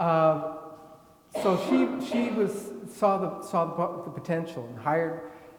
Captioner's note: attendee coughing